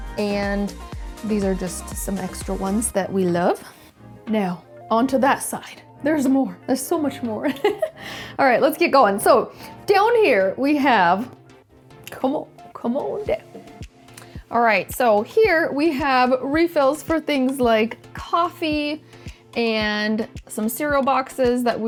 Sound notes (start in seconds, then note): 7.5 laughs